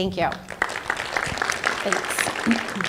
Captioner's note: applause